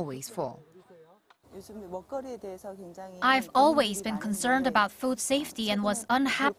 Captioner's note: Korean